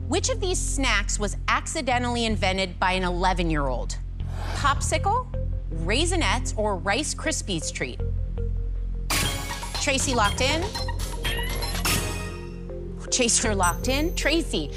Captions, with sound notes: Traci locked in. [ Chime ] [ Chime ] Chaser locked in.